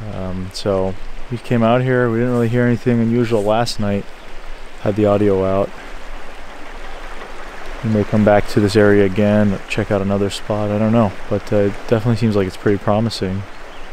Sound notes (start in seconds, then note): 6.2 water flowing